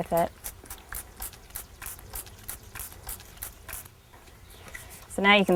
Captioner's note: spritzing